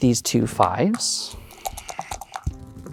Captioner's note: dice rattling; dice rolling